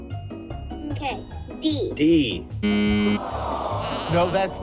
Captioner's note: machine beeps